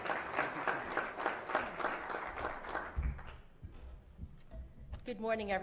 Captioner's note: applause